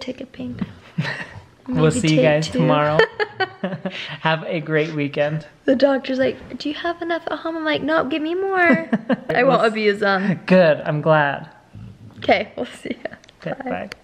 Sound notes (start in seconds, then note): 3.4 laughing